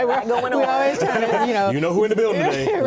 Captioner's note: laughter